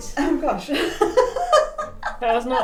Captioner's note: laughs